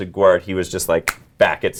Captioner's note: snapping fingers